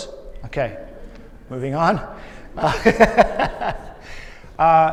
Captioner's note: laughs